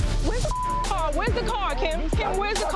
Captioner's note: beep